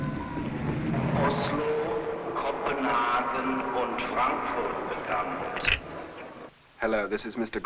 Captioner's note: man on loudspeaker speaking foreign language